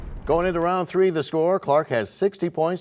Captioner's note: crashing sound